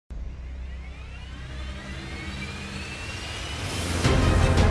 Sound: plane engine roaring; upbeat music

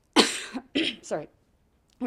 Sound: coughing

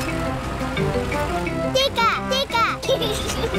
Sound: giggles

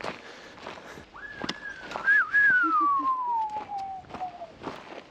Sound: ambulance siren in distance; whistling it

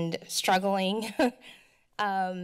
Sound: chuckles

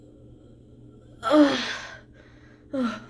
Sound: sigh

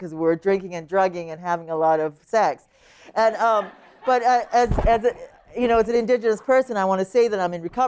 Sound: laughter

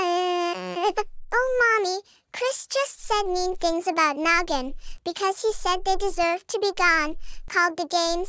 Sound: crying

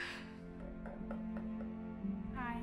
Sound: knocking

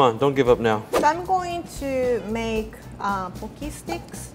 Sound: air whooshes

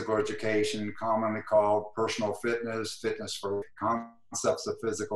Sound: glitch

